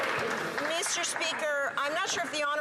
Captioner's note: some Applause